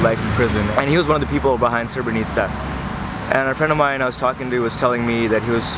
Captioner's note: Serbian